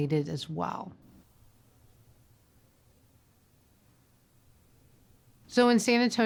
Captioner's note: silence